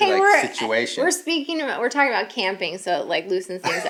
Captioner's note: laughs